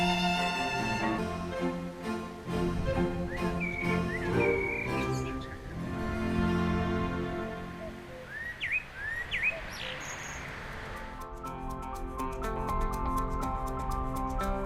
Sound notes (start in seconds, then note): 8.5 birds chirping; 10.7 soft music